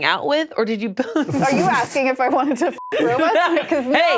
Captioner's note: beep